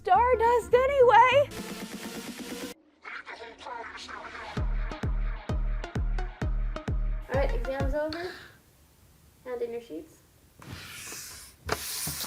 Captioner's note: sound of paper shuffling